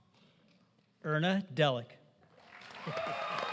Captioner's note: applause